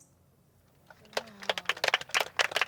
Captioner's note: crowd applauding